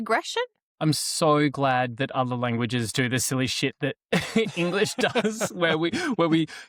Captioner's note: laughs